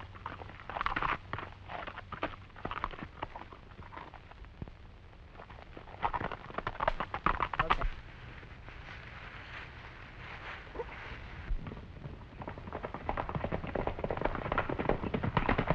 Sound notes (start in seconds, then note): 10.7 grunting